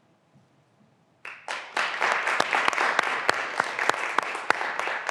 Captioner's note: graduands applauding